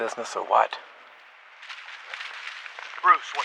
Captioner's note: rustling